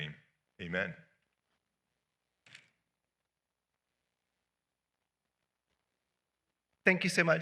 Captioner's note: silence